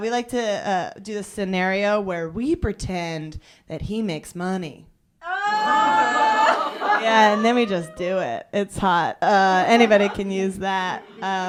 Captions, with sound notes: We like to do this scenario where we pretend that he makes money. (laughter) Yeah, and then we just do it, it's hot. Anybody can use that.